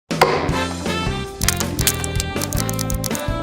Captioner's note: nuts cracking; jazzy music